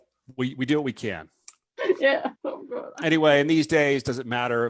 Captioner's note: laughs